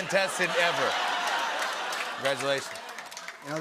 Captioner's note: laughter and applause